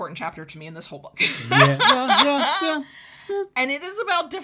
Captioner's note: laughs